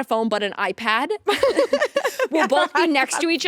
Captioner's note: both laughing